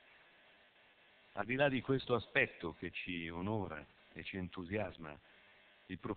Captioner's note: Italian